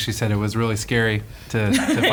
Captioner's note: laughs